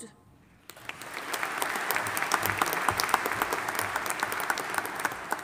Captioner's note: audience applauding